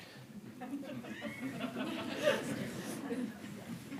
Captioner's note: laughter